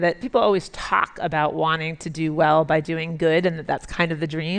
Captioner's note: none